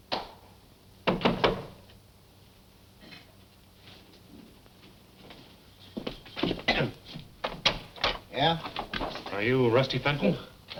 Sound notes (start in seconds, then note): 1.2 knocking